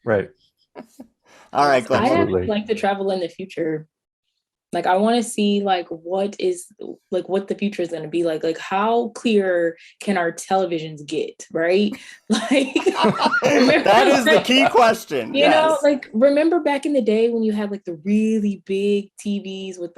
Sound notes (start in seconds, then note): 12.4 all laughing